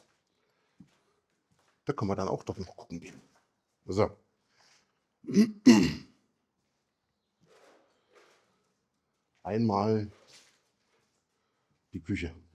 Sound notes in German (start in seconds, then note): 8.2 räuspern